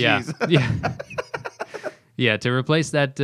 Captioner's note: laughter